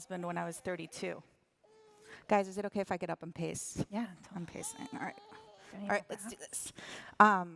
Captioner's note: cute baby noises